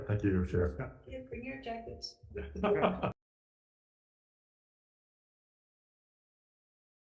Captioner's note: chuckles